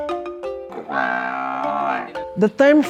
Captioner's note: carabao moos